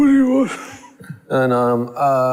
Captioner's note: laughs